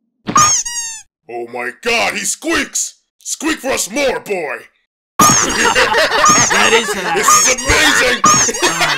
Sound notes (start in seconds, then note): 0.3 GOHAN squeaks; 6.1 GOHAN squeaks repeatedly; 6.2 GALAXY SOLDIERS' excited cacophony